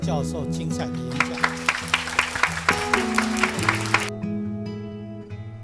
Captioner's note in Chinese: 掌聲